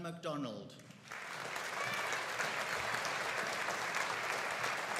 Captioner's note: audience applauding